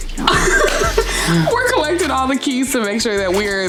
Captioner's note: laughs